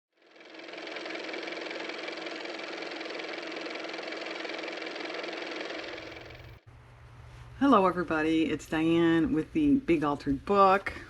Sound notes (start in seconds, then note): 0.2 car motor